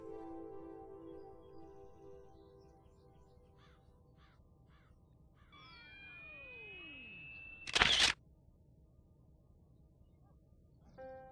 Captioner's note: sound of an electronic flash charging